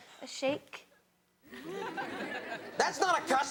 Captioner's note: audience laughs